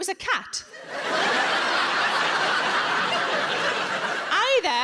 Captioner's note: audience laughs